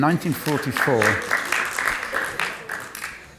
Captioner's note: applause